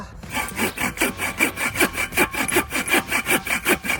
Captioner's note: blade scraping